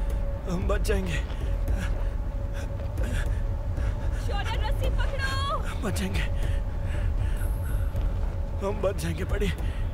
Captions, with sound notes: We’ll be saved. [Shorya panting] Shorya, hold the rope. We’ll be saved. [Caveman gasps] Buddy! We’ll be saved.